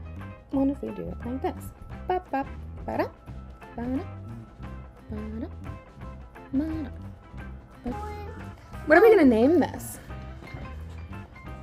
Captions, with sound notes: what if I do this? *badap* *badap* *badap* What I'm going to name this!